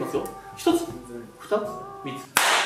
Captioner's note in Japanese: 手をたたく